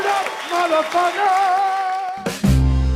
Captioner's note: crowd cheers; upbeat music